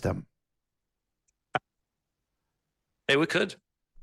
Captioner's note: audio cuts out